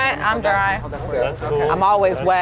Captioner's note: overlapping chatter